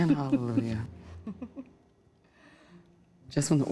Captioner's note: chuckles